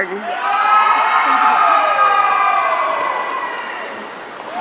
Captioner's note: audience cheering